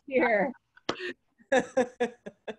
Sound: laughing

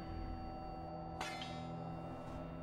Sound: metal clatter

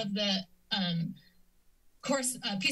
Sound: pause

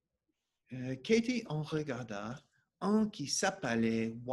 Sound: speaking French

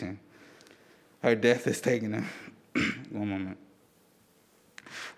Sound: clears throat

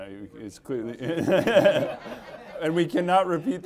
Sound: audience laughing

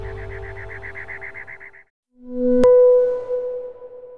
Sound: pinging

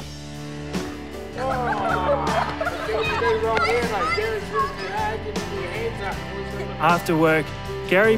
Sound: children laughing

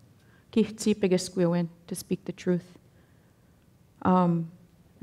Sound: speaking Danezaa

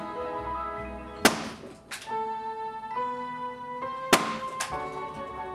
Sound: balloons pops

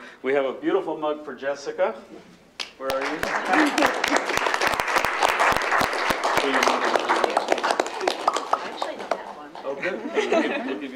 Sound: applause

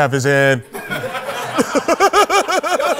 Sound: laughter

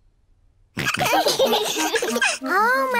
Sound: all laughing

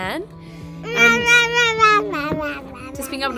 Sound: babbling

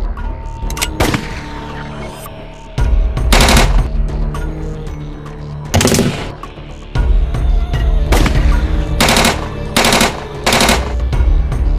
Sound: gunshot outside

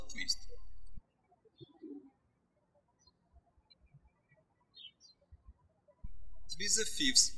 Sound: birds chirping

